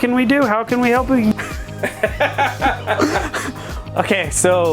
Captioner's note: laughter